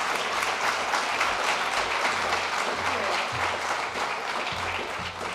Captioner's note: applause